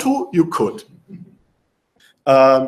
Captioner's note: laughter